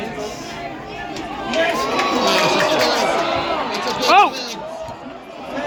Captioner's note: cheering